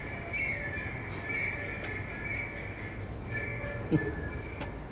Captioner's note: alarm continues more insistently; chuckles